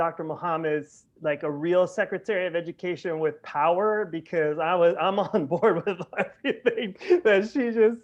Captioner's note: laughter